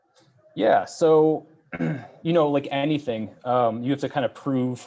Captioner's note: coughs